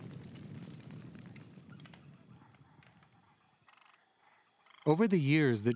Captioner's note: insects chirping